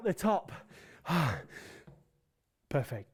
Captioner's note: sighing